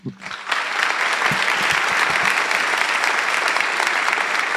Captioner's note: audience applauding